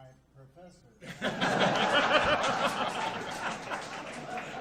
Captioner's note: audience laughs